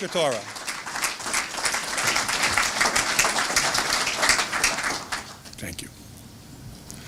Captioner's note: applause